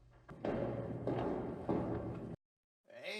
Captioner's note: sound of a door opening; echoing foot steps in the dark